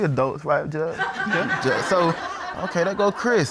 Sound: audience laughs

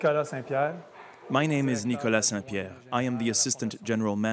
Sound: man translating

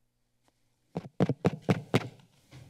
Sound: silence; mike taps; silence

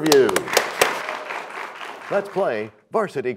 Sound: applause

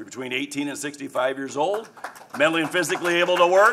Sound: applause

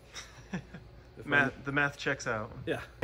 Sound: giggles

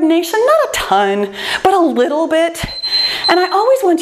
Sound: timer beeps

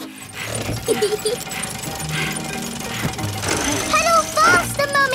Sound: mummy pig panting; peppa laughing

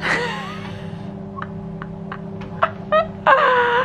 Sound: laughing

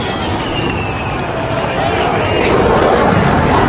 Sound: louder Jet Roars

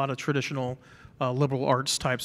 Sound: none

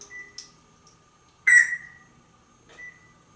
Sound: Einstein makes microwave beep

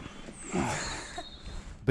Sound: laughs

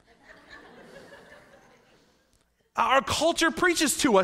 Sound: laughing

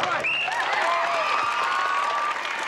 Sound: applause; whistle blows

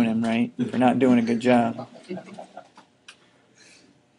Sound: student chuckling

